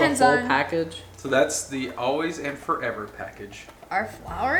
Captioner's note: male Voice